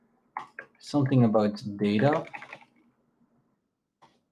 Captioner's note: keyboard clacking